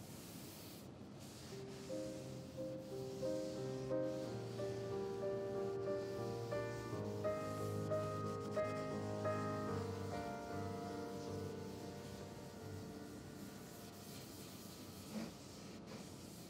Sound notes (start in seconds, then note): 1.8 calming music; 1.8 towel softly brushing; 6.3 calming music; 6.3 towel softly brushing; 11.3 calming music; 11.3 towel softly brushing; 16.3 calming music; 16.3 towel softly brushing